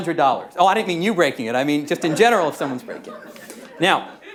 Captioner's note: laughter